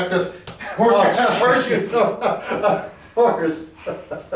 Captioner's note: men laugh